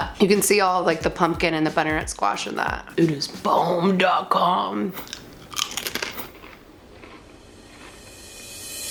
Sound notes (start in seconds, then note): 5.0 both crunching